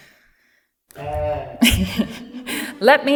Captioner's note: cheers